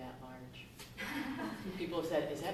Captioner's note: laughter